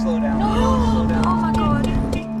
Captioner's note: all gasping